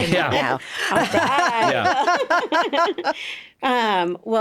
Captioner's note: both laughing